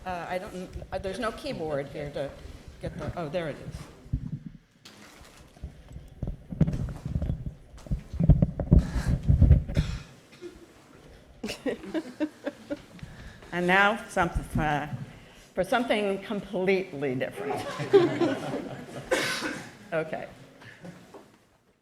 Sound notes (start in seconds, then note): 9.7 chuckle; 17.6 chuckles